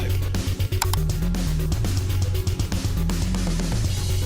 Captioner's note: gun clicking; lively music continues